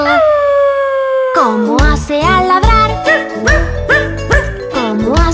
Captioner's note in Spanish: Aullido; Ladrido